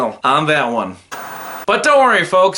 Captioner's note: TV Static